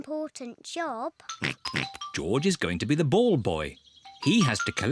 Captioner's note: snorts